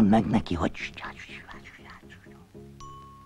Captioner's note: whispers